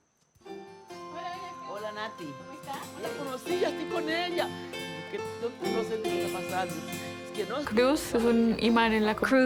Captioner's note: speaking in foreign language